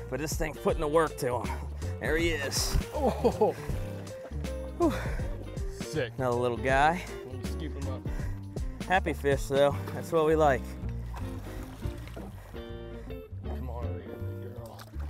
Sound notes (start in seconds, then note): 4.8 exhales quickly; 12.3 bright guitar music